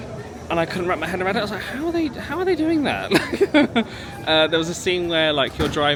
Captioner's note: laughs